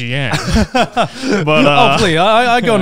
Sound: laughing

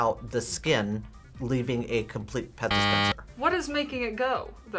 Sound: buzzer

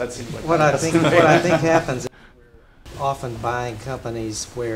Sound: laugh

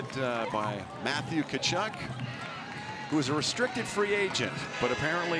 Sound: cheering and Applause

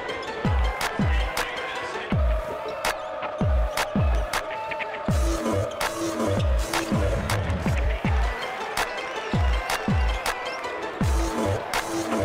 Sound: whistle

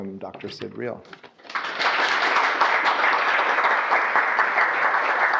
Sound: audience applause

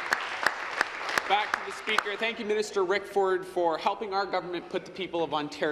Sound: applause

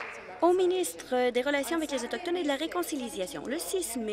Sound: applause

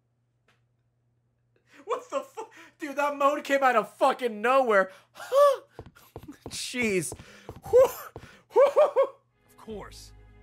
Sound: moans; laughs

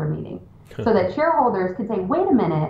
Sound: chuckles

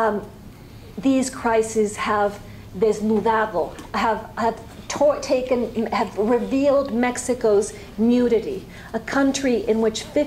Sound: spanish

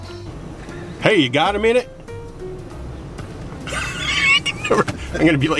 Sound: laughing

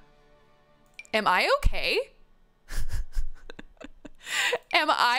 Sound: laughs

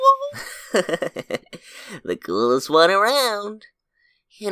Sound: chuckles

